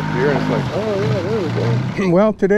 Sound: boat engine idling

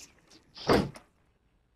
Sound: door closes

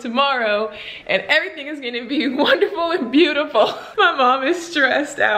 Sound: laughs

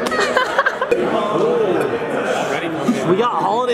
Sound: laughs

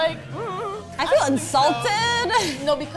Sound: chuckles

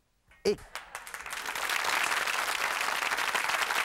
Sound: clapping

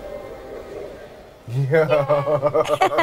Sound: laughing

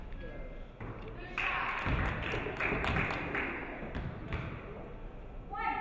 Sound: audience clapping

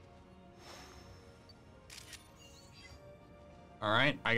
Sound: photo snapping

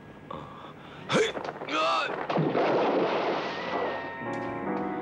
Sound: man grunts; yells; dramatic, orchestral music

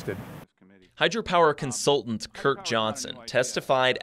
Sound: voiceover

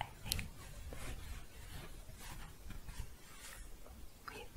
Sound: shuffling

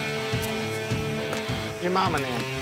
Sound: bones crack

